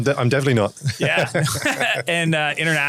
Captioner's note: laughter